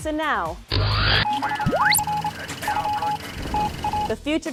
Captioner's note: sound Effects